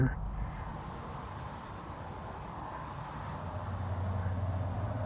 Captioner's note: car engines whooshing